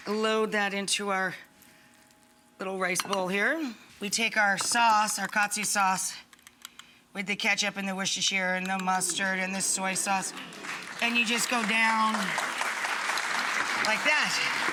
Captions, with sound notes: Load that into our little rice bowl here. We take our sauce, our katsu sauce with the ketchup and the Worcestershire and the mustard and the soy sauce. (audience clapping) And you just go down like that.